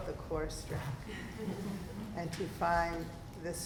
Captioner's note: participants laugh